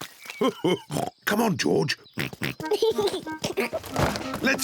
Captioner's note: oinks and giggles; chuckles